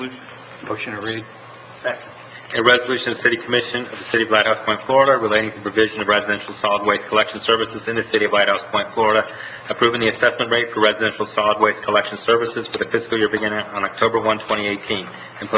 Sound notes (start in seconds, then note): none